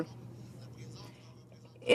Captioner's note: speaking French